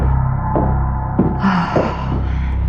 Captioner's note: sighshs